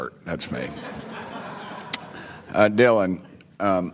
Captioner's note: scattered laughter